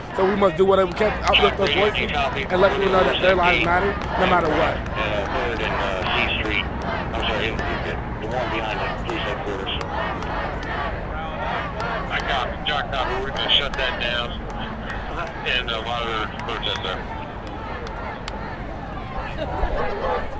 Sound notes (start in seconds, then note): 5.8 crowd; 12.5 policeman on radio